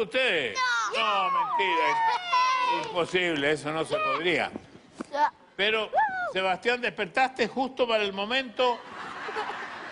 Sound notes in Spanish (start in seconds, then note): 0.6 Exclamaciones